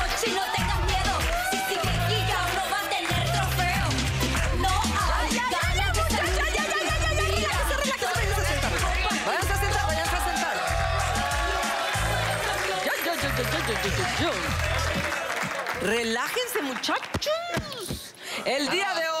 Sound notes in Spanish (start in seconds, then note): 10.4 Aplausos